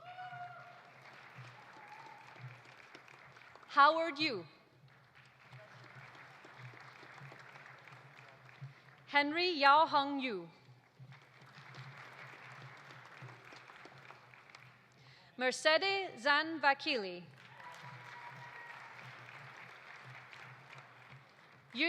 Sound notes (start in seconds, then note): 0.0 audience cheering; 0.0 audience applauding; 10.7 audience applauding; 17.3 audience applauding; 17.4 audience cheering